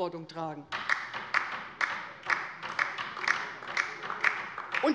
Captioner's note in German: Beifall bei der LINKEN